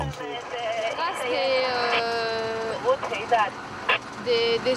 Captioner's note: French spoken audio